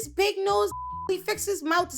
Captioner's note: beep